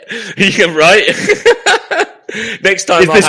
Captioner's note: laughing